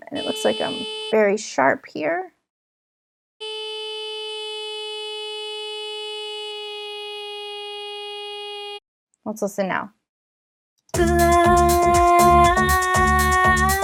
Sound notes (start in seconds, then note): 3.5 electronic buzzing; 10.9 techno music